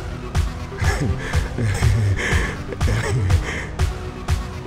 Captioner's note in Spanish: Coach se ríe